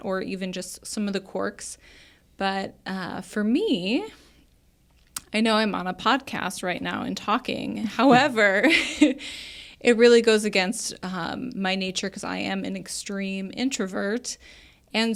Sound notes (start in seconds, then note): 8.0 chuckles